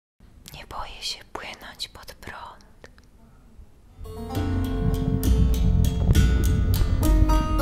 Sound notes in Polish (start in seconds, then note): 0.5 szeptem; 3.9 spokojna muzyka